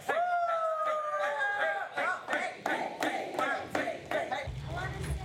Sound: all chanting

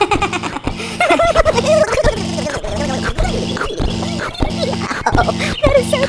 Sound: giggling

